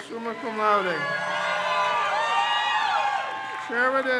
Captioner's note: crowd cheers